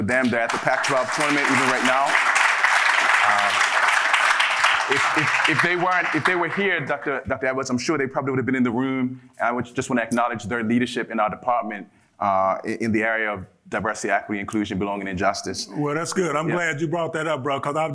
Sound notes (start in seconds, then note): 2.7 audience laughing